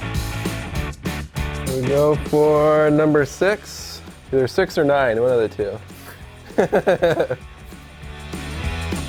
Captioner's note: laughs